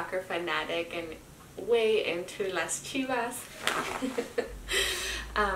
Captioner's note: laughs